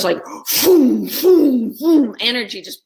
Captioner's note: exclaims